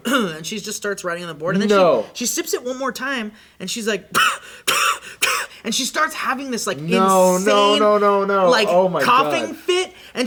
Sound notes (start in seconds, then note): 4.3 wheezing